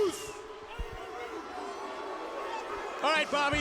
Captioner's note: audience barking